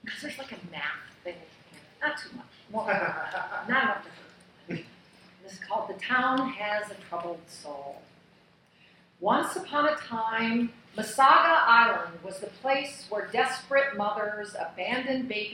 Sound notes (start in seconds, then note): 2.7 laughing; 4.6 clears throat